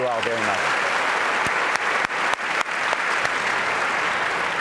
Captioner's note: audience applauds